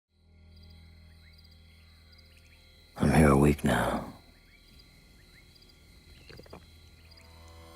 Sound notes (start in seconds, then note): 2.9 crickets chirping